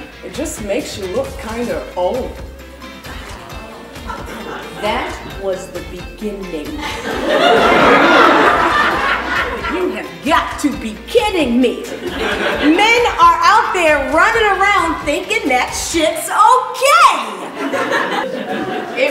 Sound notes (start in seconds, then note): 2.8 audience groans; 6.7 audience laughs; 17.3 audience laughs